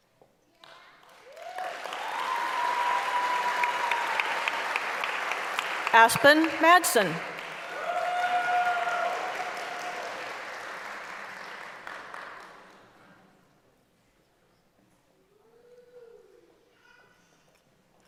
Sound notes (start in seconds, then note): 4.1 applause; 11.8 cheering